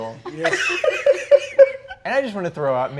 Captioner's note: laughs